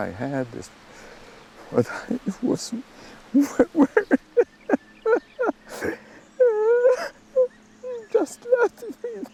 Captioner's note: sobbing